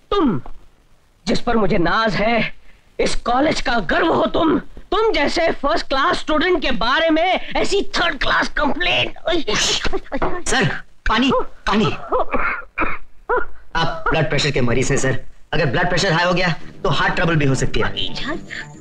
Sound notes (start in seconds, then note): 9.2 groaning; 11.1 cough; 17.8 groaning